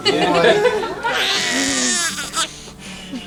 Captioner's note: baby crying